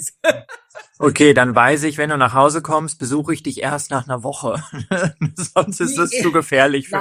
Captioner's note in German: gelächter; gelächter